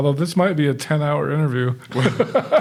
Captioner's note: chuckling